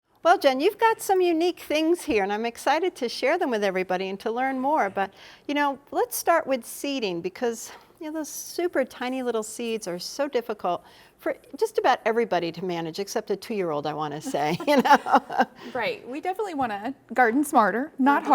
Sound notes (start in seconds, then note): 14.2 laughs